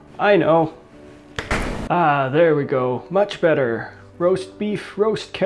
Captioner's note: finger snap